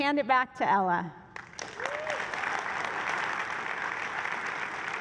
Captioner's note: applause